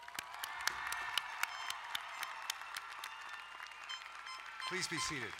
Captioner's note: crowd cheering and applauding